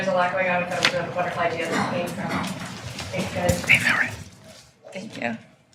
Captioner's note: coughing drowns out voice